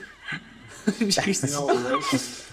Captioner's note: laughter